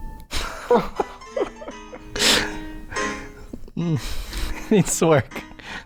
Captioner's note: chuckles